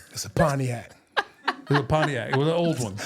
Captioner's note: laughing